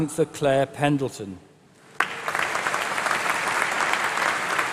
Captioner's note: applause